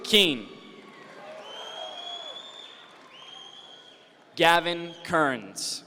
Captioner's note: audience members cheer